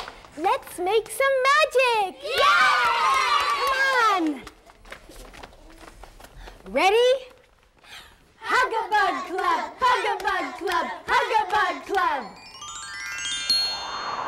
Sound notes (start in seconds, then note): 2.2 cheering